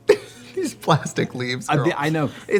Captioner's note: laughing